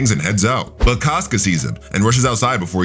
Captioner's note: air whooshing